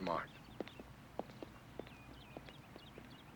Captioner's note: footsteps